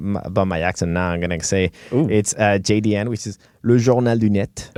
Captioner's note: speaking french